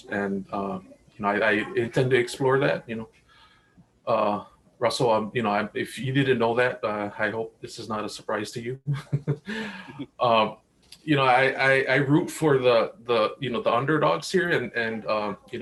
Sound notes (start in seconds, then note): 8.8 chuckles